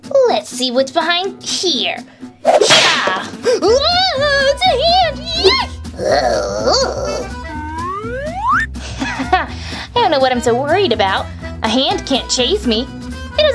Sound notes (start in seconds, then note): 2.6 tombstone Crashing; 3.8 Gekko Wails; 5.9 hand Snarling